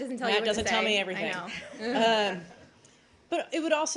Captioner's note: laughter